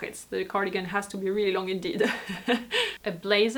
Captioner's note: laughs